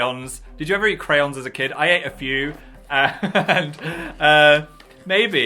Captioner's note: laughs